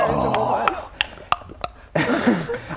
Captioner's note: click click click